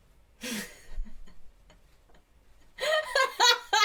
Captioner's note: laughs; belly laughs